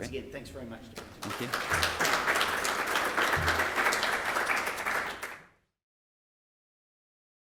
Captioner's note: audience clapping